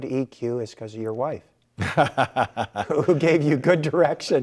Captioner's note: laughing